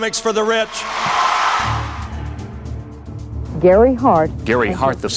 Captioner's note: cheers